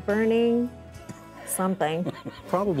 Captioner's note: laughing